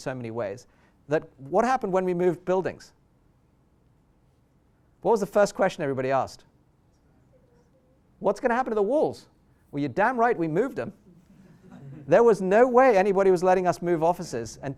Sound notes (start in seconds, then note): 11.1 laughter